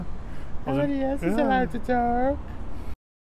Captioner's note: mocking